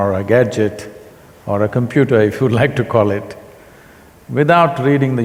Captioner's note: laughs